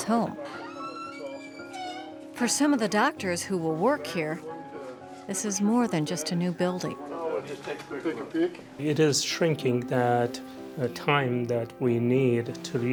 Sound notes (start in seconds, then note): 0.4 door squeaking